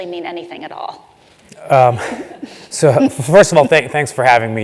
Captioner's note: laugh